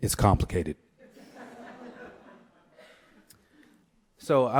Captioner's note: laughter